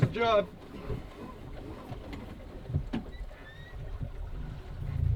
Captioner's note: boat creaking